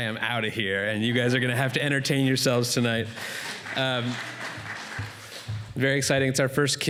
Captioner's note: applause